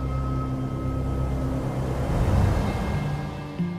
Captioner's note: wind howls